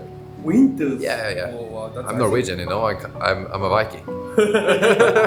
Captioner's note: laughs